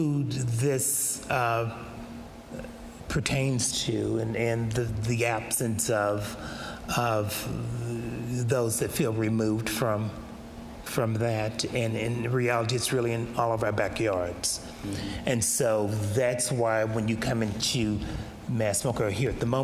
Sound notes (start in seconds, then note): none